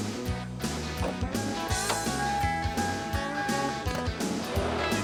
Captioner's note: car dinging; upbeat music